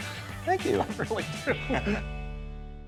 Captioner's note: chuckles